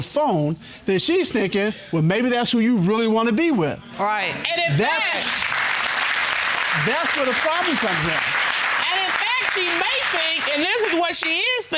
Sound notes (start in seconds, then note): 4.8 audience applauds